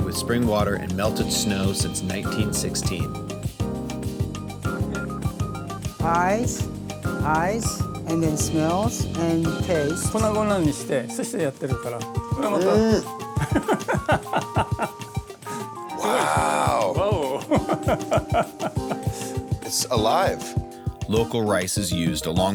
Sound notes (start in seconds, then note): 10.4 man speaking Japanese; 13.4 man laughing